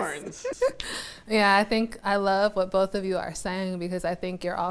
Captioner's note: laughs